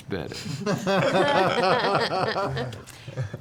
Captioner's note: laughter